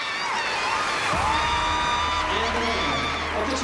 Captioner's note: cheering and applause